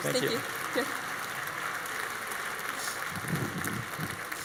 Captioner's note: audience applauds